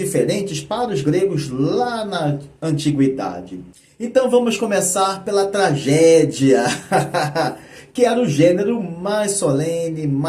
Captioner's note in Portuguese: risadas